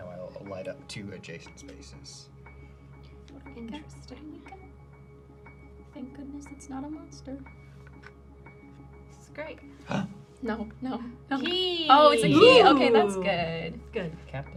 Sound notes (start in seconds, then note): 9.8 gasping